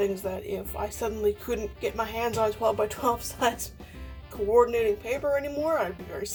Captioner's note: laughs